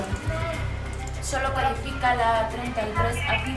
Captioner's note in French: Audio parlé en espagnol